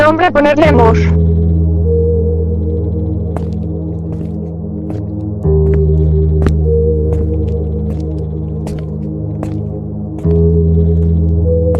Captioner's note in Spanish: Pasos silenciosos